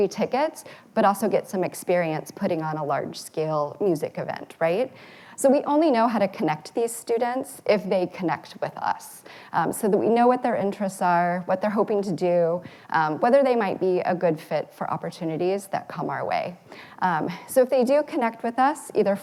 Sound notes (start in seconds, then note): none